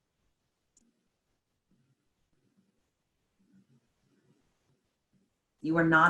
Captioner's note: silence